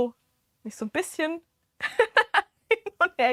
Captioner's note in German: gelächter